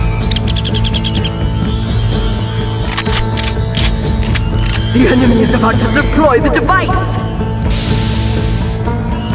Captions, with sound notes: *Guns Cocking* The enemy is about to deploy the device!